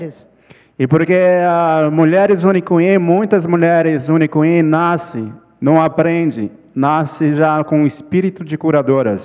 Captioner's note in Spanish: ponente habla en portugués